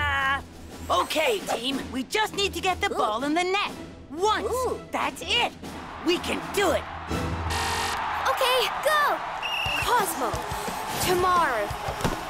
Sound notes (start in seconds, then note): 5.7 crowd cheering; 7.4 buzzer buzzing; 9.4 whistle blowing